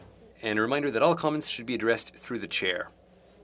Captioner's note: speaking French